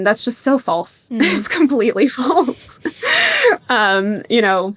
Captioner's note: laughs